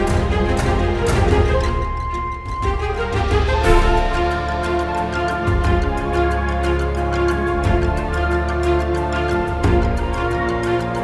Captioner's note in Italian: Applauso